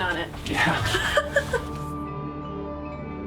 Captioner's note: laughter